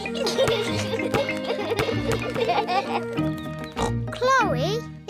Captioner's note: oinks; youngsters giggle